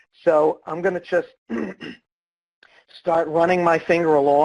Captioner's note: clears throat